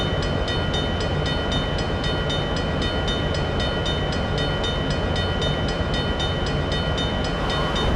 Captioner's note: bell ringing